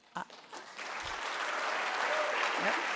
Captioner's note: applause